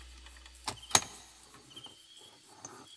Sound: lock opens

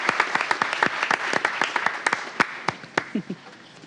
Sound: applause

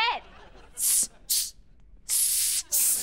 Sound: hissing

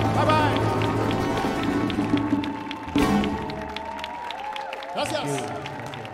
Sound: audience applauding

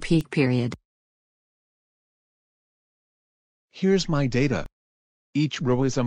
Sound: voice-over

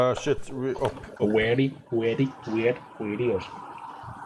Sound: faux Indian accent

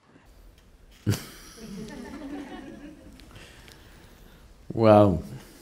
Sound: laughs

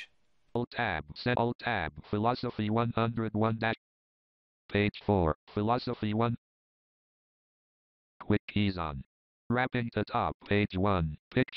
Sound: JAWS Screen Reader Voice

